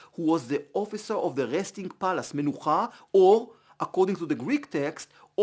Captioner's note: Hebrew